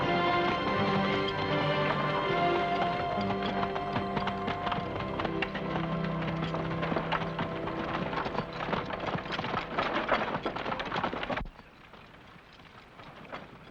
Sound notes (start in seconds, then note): 0.0 dramatic music; 3.5 hooves trotting & carriages rattling; 11.5 hooves trotting faintly